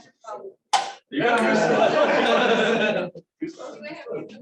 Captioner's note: laughter